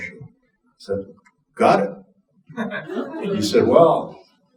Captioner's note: audience chuckling